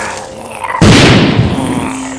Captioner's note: gun Shot